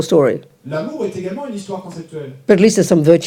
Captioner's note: audience member speaks in French